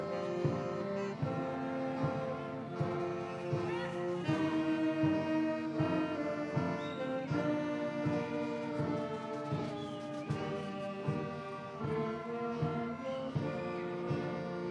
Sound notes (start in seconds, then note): 7.3 audience cheers; 7.3 orchestral music